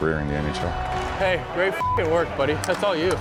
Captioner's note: beep